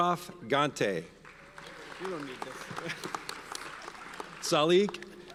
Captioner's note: audience applauds